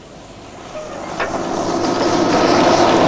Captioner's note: loud mechanical noises